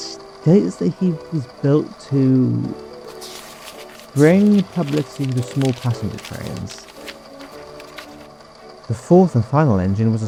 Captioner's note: shuffles Paper